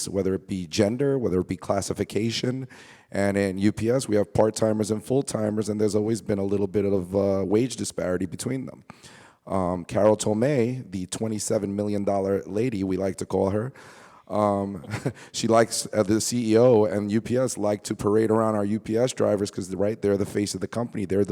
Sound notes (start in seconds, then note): 14.7 chuckles